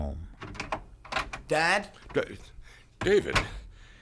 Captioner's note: door opens